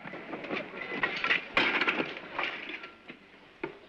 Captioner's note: objects clatter